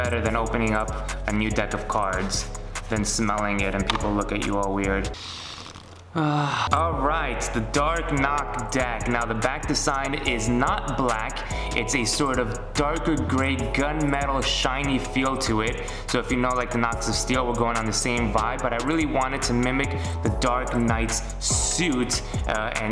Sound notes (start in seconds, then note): 5.1 inhales